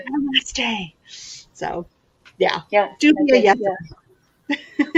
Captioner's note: laughs